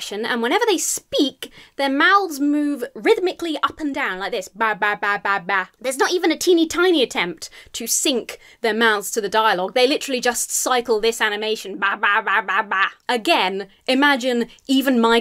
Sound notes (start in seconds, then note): 4.4 mimics fish talking; 11.6 mimics fish talking